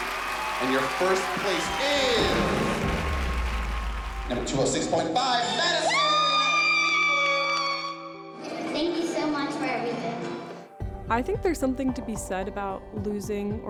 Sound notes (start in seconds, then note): 5.5 screaming